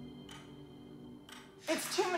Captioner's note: clock ticking